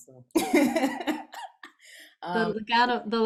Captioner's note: laughs